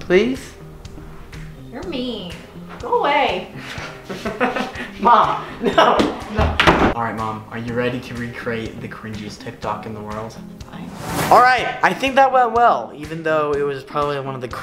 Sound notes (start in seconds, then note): 3.8 laughing